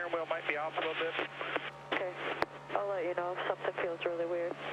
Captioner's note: radio